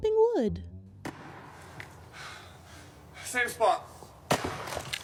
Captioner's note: soundbite of archived recording